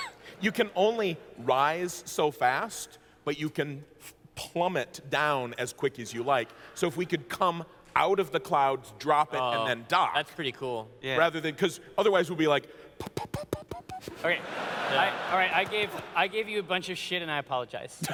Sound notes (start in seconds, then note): 13.3 puttering sound